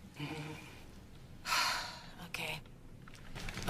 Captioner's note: sighs